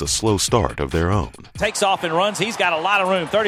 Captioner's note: voiceover